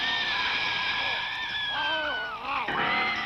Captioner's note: screams